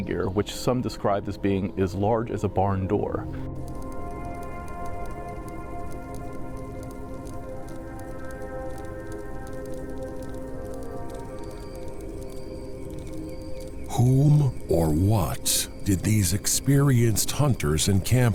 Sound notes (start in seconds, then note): 4.6 campfire crackling; 6.3 suspenseful music